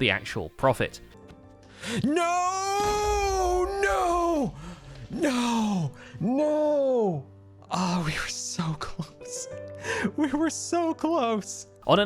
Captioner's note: explosion